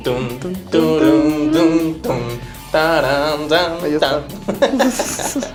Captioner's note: Both humming Luigi's Mansion theme